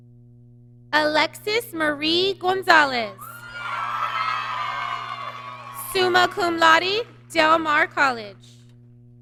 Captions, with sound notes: Alexis Marie Gonzalez, (applause) Summa Cum Laude, Del Mar College.